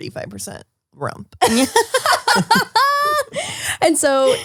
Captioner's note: all laugh